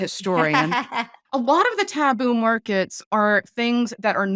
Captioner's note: laughing